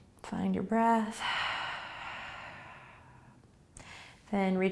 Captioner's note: exhaling